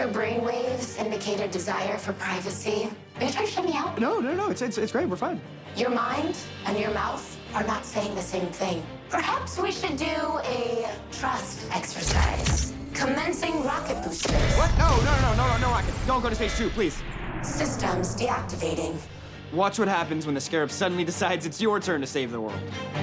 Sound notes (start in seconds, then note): 12.1 thud, thud; 17.2 power down